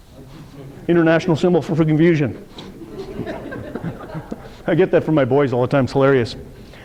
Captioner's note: audience laughter